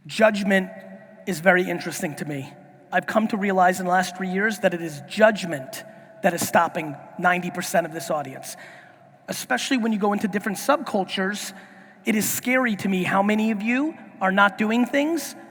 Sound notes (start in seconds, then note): none